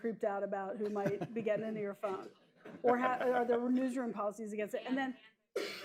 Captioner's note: laughter